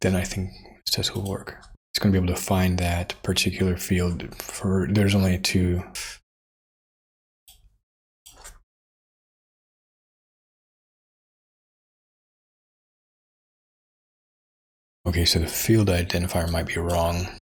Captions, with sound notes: Then I think this will work. It's going to be able to find that particular field for, there's only two. (Blank Audio) Okay, so the field identifier might be wrong.